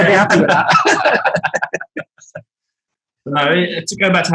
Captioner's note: group laughing